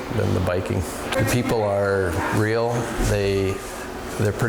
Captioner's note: people chattering distantly